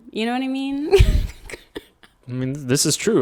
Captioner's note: laughing